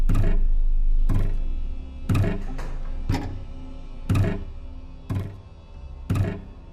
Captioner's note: object thudding rhythmically; soft tense music